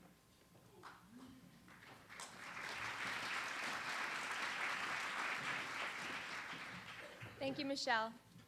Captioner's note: applause